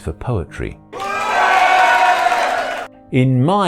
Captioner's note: applause